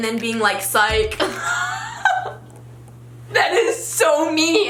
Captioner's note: laughs